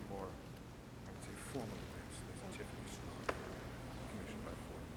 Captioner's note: faintly speaking